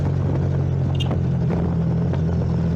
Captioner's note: accidental horn oops